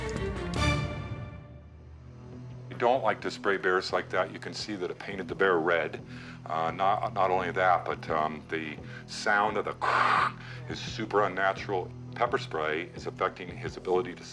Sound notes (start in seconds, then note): 9.9 mimics can spraying